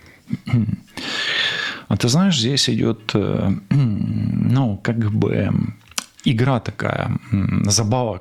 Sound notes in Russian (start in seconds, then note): 0.3 откашливается; 0.9 фыркает